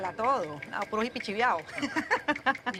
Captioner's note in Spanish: Risas